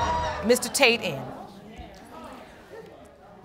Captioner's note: audience murmuring